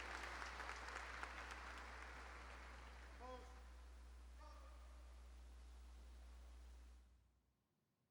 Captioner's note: cheers and applause